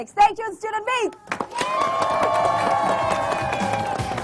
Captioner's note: applause, cheers